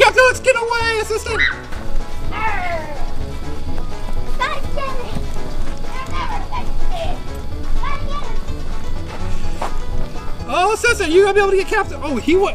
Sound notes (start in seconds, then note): 1.2 scream